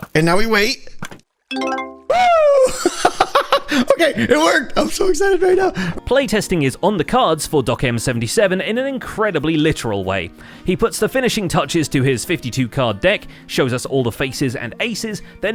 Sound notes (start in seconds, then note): 1.5 happy chime; 2.1 redstone noises; 2.3 laughs